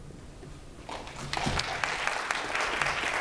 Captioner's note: applause